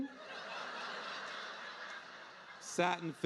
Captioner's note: audience laughing